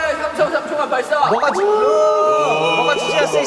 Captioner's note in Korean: 고음